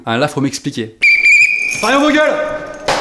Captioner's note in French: coup de sifflet